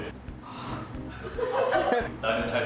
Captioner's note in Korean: 웃음소리